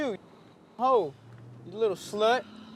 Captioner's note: muted